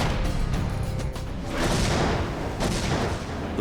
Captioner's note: gunfire